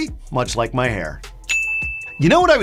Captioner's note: bell ringing